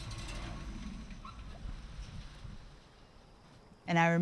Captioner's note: motor stops